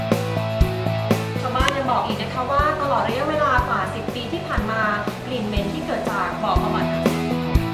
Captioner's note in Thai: เสียงผู้ประกาศข่าว